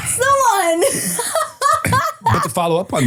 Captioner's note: person laughing